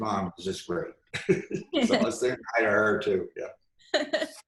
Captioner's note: laughs